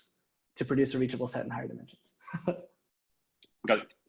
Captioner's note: laughing